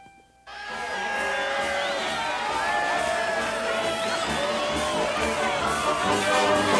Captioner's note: townsfolk cheer; cheerful marching band music